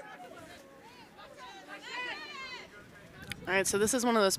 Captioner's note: shouting